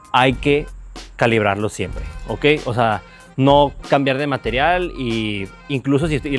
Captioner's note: exhales